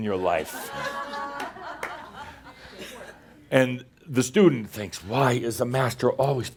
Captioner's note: some laughter as the “student” is surprised by the microphone